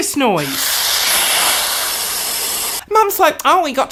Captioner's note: static